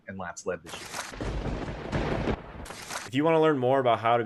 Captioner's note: thunder